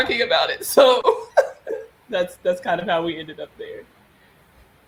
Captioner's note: laughs